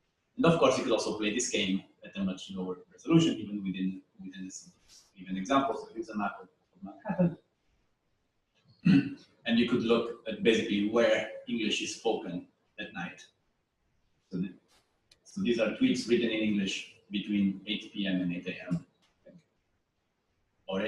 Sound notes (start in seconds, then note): 13.6 pause